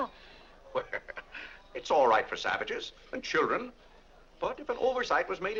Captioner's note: laughs